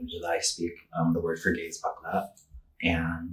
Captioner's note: speaking Tagalog